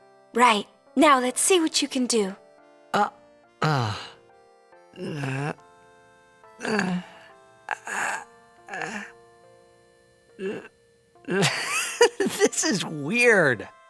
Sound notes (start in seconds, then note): 2.8 stammers; 4.9 groaning; 11.3 giggles